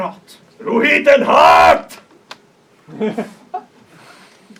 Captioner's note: laughter